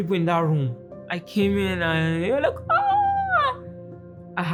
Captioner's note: exclamation